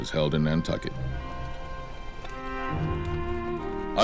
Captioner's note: bells tolling